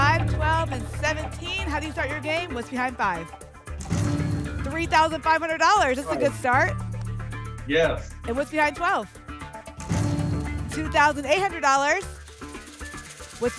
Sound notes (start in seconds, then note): none